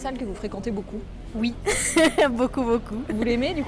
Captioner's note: laughs